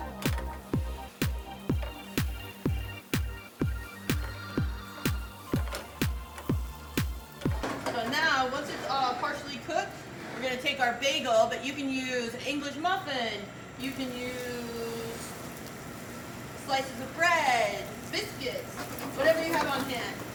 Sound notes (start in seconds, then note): 7.0 pan clatters against burner